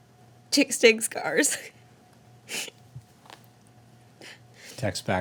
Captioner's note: Annabelle crying